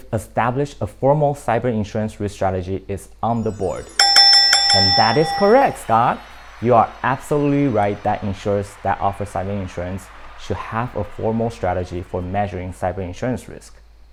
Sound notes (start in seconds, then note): 3.4 bell rings